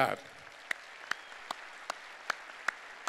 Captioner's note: applause